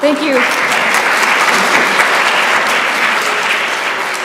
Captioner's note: applause